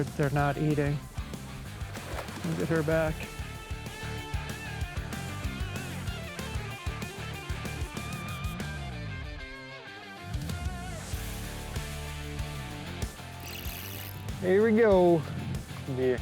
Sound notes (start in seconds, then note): 1.5 water splashes; 4.1 upbeat music; 13.3 reel scratching